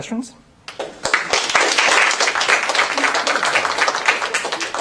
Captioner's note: applause